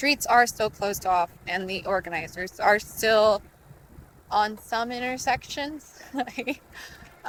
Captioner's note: laughs